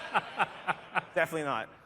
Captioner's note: laughter